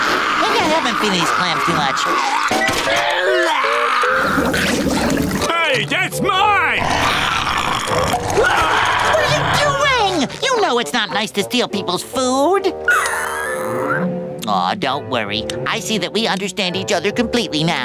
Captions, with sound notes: I could never feed these clams too much. [gagging] Hey, that's mine! [growling] [screaming] What are you doing? You know it's not nice to steal people's food. [whimpering] Aww, don't worry, I see that we understand each other completely now.